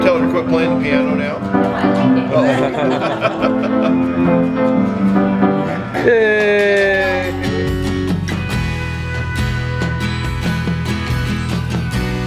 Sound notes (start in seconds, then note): 6.4 clapping and cheering; 8.9 inspirational music